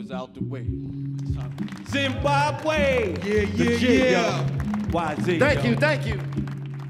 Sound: audience applauding

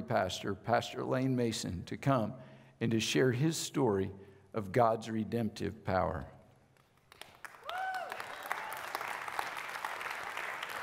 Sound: audience clapping

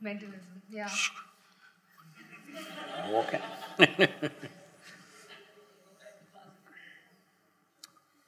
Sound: laughter

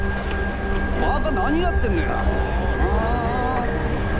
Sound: citizen speaking in foreign language

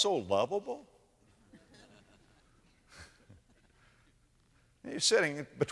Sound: audience laughter

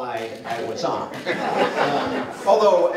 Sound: laughter

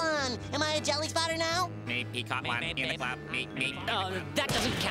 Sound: chattering

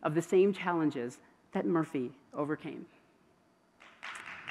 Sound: applause

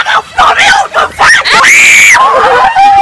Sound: screams

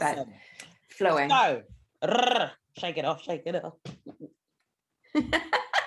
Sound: trills; they both laugh

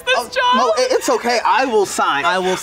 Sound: crying

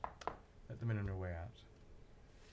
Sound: knocking on door

